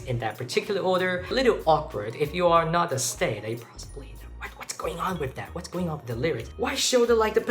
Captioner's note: whisper